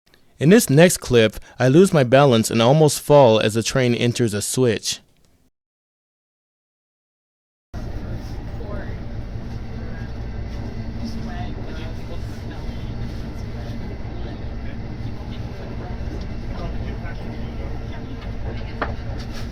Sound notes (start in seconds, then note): 5.2 Acela Express switches tracks roughly